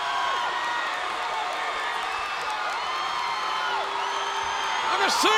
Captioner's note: audience applauds and cheers